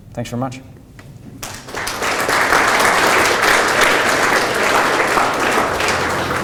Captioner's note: audience applause